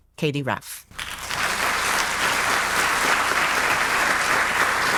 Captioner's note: audience applauding